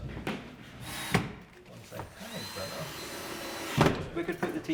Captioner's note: man drilling